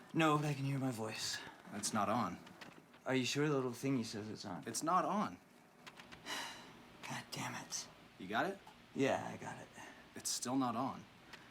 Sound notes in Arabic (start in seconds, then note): 6.2 يتنهد